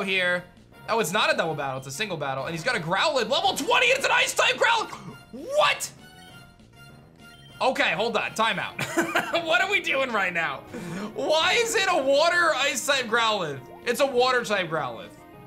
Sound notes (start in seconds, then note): 8.8 chuckles